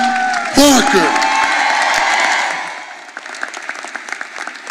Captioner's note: all applauding